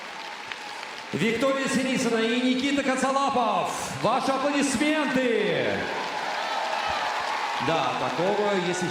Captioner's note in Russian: ликование